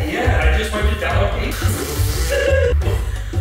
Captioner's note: blows raspberry; laughs